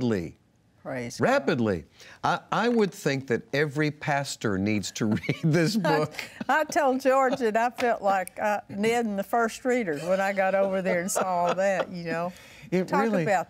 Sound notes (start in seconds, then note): 5.4 laughs